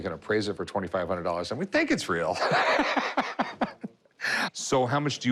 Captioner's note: laughs